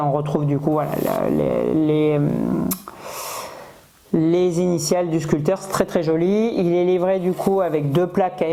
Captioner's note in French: grognement